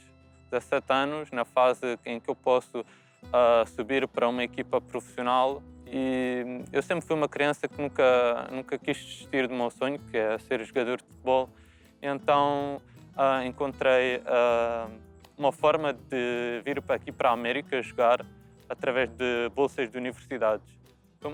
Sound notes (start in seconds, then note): none